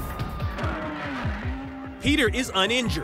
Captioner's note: siren wails